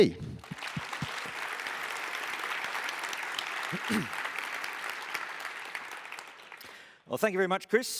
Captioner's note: applause